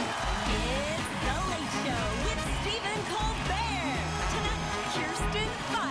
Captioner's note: cheers and applause